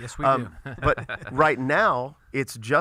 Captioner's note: laughs